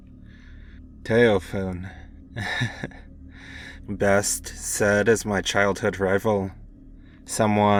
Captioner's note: sighed, little chuckle